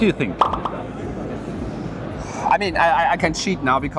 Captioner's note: popping